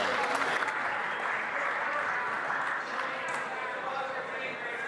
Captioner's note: some Applause